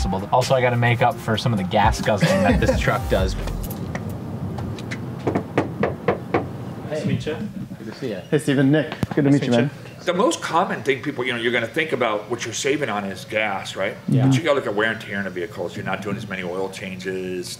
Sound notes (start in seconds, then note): 5.2 knocking on the door